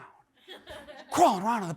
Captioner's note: audience laughs